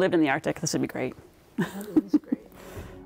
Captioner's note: laughs